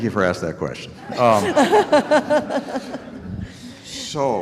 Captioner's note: audience laughing